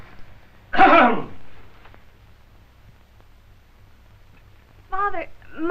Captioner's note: coughing